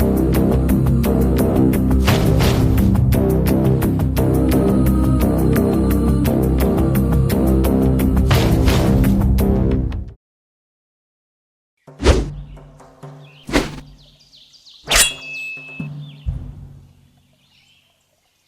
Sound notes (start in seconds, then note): 13.4 sword swiping